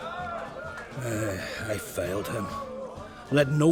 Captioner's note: heavy sigh